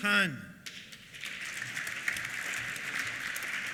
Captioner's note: applause